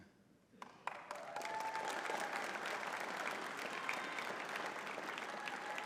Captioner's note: audience cheering and clapping